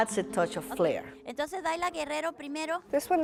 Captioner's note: foreign language